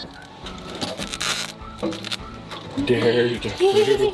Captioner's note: door squeaks